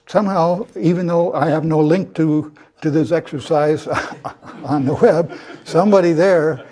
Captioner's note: laugh